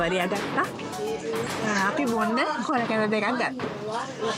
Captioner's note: hearble drink